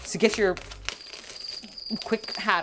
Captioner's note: 𝘊𝘳𝘪𝘤𝘬𝘦𝘵𝘴 𝘤𝘩𝘪𝘳𝘱𝘪𝘯𝘨